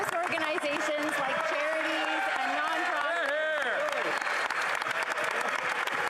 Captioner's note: applause